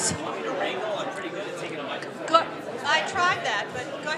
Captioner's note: audience speaking